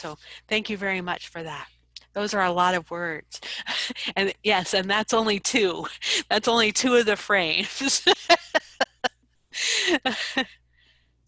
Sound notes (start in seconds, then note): 8.1 laughs